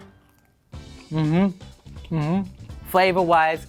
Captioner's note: mmhmming